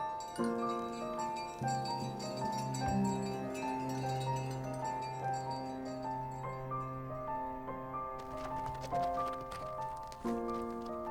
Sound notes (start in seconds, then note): 3.1 bells ringing; 3.1 calming music continues